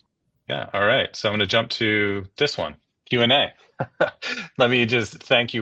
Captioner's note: laughs